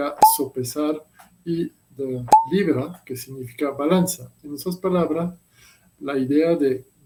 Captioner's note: pound